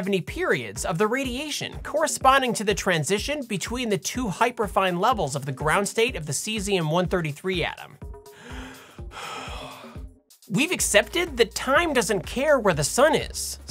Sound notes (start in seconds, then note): 8.2 catching Breath